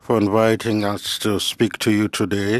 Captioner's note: speaking French